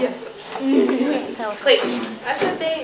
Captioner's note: laughter